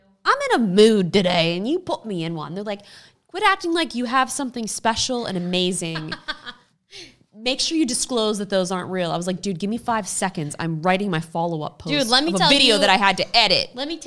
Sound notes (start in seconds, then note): 5.9 laughs